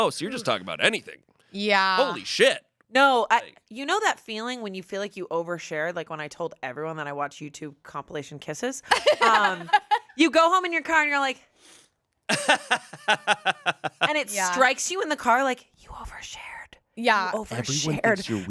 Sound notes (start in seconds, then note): 8.9 laughs; 12.3 laughs